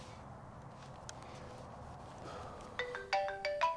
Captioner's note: phone ringing